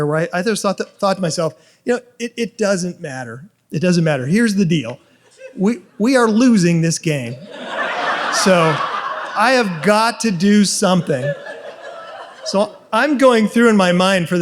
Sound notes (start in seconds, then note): 7.4 audience laughs